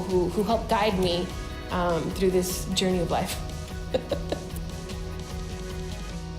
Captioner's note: laughs